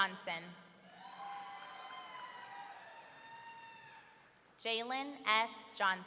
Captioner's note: audience cheering